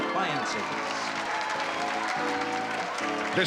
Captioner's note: applause